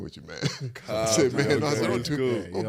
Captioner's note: Eric laughs